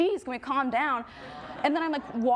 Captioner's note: audience murmurs in agreement